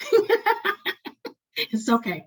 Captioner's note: laughing